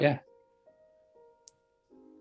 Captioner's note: click